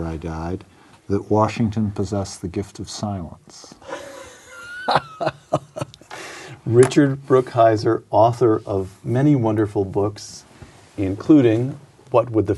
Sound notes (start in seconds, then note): 3.8 laughter